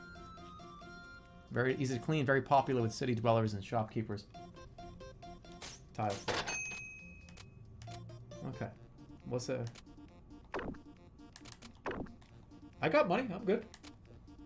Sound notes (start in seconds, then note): none